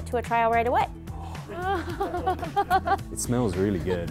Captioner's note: giggling